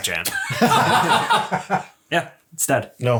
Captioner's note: laughs